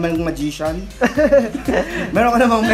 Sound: laughs

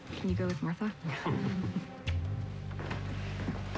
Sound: chuckles

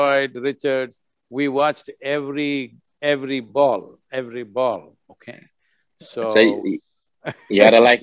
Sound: laughs

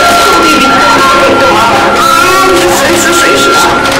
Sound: Alicia cries

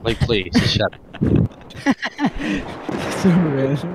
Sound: haha laughter

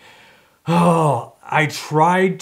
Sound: groans

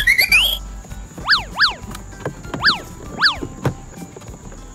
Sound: swish; upbeat music

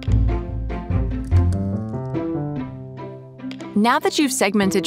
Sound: inspiring music; keyboard patters

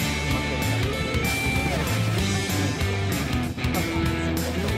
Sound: laughs

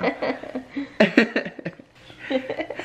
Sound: laughing

